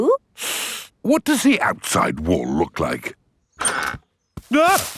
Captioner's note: inhales sharply